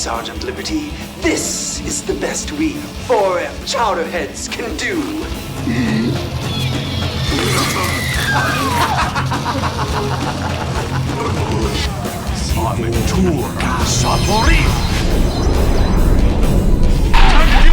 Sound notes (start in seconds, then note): 4.6 laughs; 4.7 groaning; 11.7 speaking foreign language; 17.2 laughs